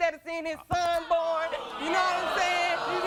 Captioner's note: audience booing